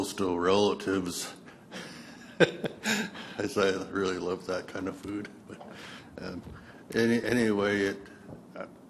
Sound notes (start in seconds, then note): 1.7 laughs